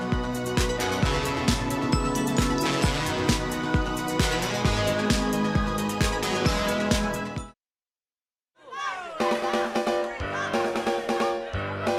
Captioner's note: crowd cheering